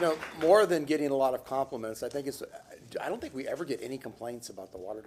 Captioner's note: applause